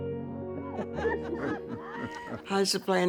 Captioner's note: group laughing